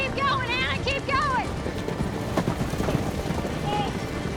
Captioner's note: galloping